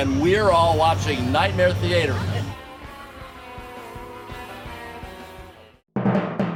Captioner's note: chuckling